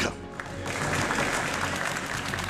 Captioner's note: applause